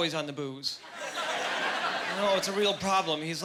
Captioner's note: laughing